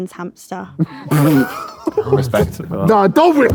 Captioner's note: George laughs